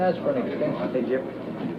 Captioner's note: indistinct chatter